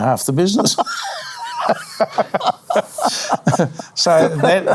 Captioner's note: laughing